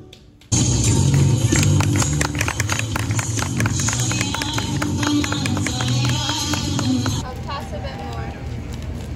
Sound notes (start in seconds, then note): 0.8 applause